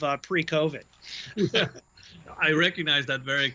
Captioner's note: both laughing